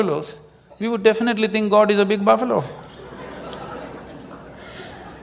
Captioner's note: laughter